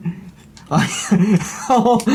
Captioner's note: laughs